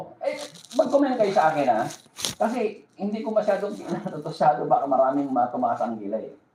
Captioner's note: laughter